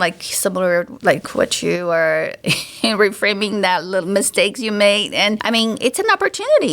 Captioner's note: chuckles